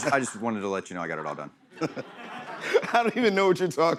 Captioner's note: chuckles